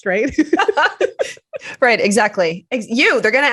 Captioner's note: chuckles; laughter